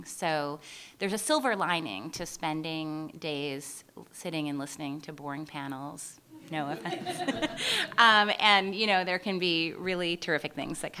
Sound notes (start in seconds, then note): 6.6 laughter